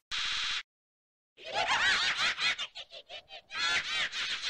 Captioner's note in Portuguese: risada macabra